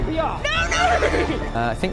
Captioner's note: neighs